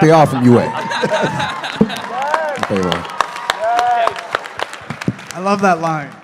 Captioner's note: laughter, cheering, applause